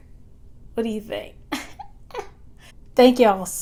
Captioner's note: giggles in confidence